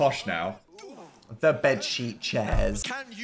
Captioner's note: both grunting